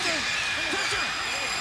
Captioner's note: crowd cheering